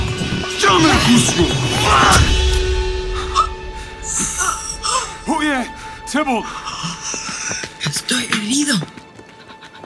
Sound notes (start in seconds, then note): 3.3 Mercutio gasping; 6.7 footsteps fleeing